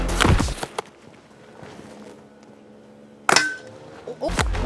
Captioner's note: nerf gun pinging against metal; construction sounds in the background